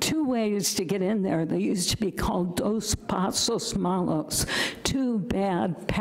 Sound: speaking foreign language

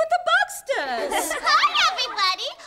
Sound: laughing

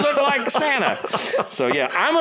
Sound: laughs

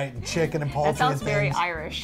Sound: laughs

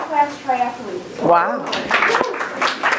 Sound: crowd cheers

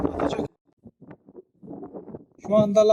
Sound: wind sound

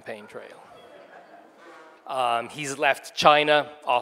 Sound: audience laughing

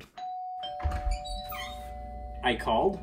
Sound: doorbell rings

